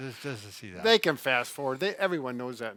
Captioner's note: laughs